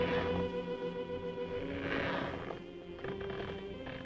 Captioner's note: object scraping